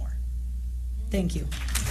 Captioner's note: applause